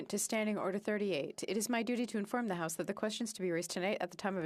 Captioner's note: speaking French